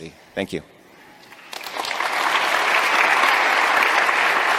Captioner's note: applause